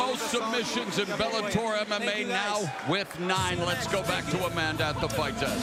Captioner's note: applause